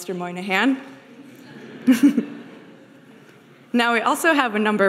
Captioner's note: audience laughing